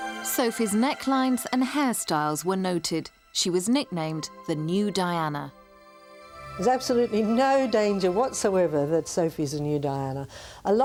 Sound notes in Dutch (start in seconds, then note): none